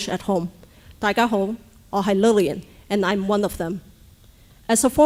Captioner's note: speaking native language